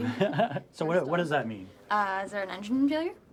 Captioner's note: laughs